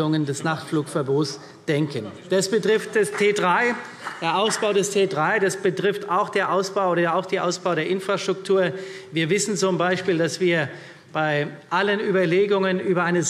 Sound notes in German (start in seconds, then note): 1.8 Vereinzelter Beifall